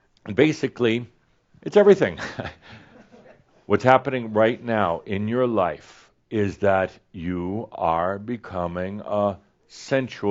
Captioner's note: chuckles